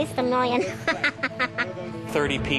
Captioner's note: laughs